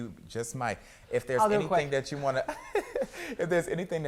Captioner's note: laughs